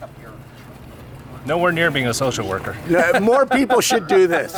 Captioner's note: laughs